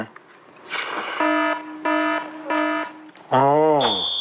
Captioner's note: slurp